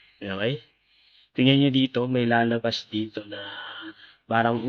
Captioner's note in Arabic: تنهّد